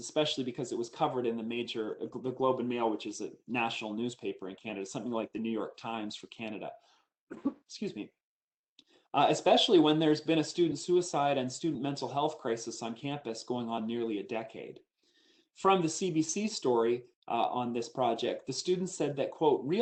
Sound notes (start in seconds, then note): 7.3 coughs